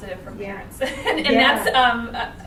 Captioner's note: laughing